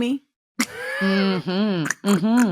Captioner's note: laughs